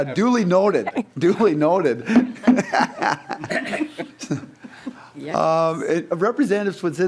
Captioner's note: laughing